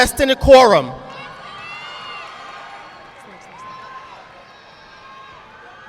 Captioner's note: audience clapping